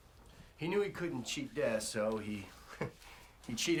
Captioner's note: laughs